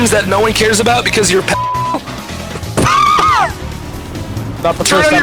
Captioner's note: laughing